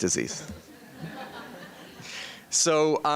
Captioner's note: members of the audience laughing